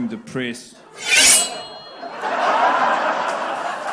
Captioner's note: knife slicing sound; applause/Laughter